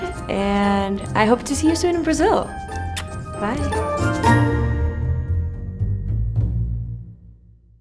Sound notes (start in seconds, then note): 2.8 smacks lips; 4.2 lively music